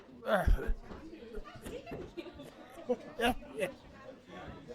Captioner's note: patrons chattering